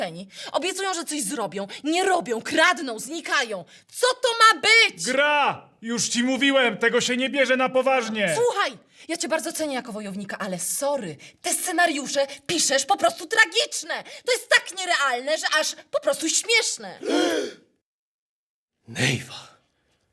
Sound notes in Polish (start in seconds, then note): 16.9 dźwięki oburzenia